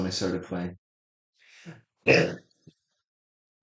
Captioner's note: coughs